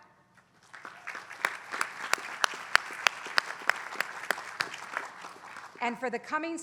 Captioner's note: applause